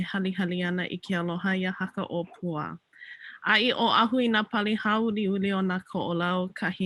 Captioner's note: continues talking in native language